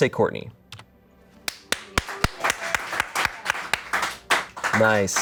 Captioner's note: audience applauding